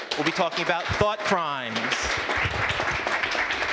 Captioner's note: applause